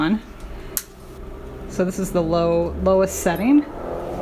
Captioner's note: click